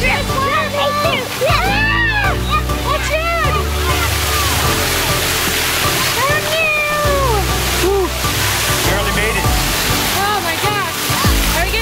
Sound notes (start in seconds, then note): 0.1 shouting; 1.7 screaming; 4.1 splashing